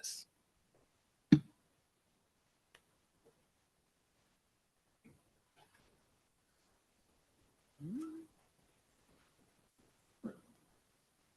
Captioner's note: silence